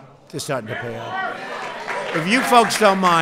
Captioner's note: applause